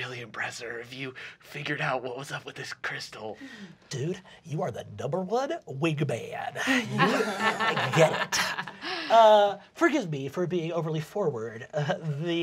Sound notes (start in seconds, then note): 6.6 laughing